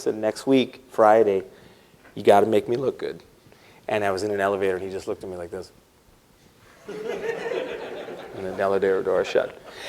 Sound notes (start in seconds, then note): 6.8 laughter